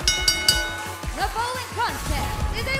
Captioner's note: bell ringing